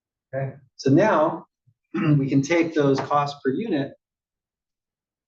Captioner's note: cough